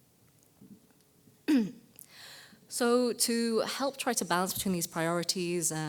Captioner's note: cough